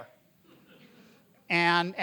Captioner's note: audience laughing